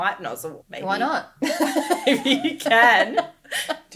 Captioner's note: laughing